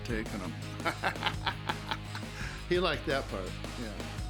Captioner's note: laugh